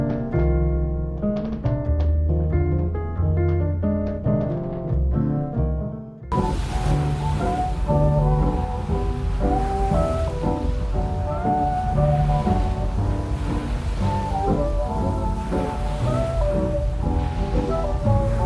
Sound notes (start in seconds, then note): 6.3 sudden change to waves crashing, and muffled orchestra band melody